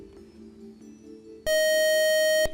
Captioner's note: buzzer